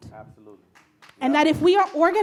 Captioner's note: audience claps